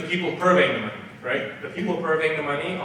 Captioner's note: none